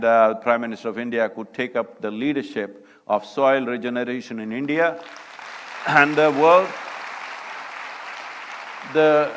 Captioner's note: applause